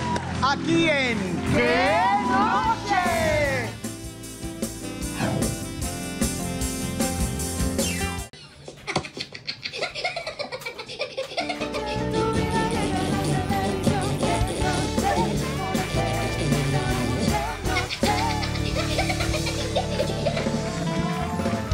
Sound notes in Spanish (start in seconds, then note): 8.7 Risas